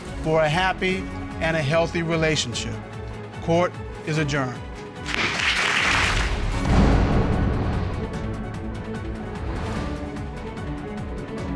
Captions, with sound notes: for a happy and a healthy relationship. -Court is adjourned. -[audience applauding] [dramatic music playing]